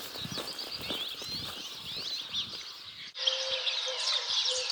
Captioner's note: birds chirping